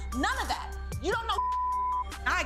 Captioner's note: beep